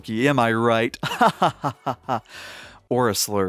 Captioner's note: laughing